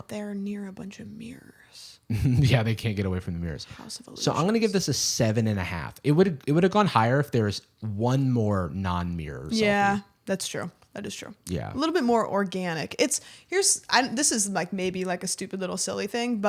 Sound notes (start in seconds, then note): 2.1 chuckles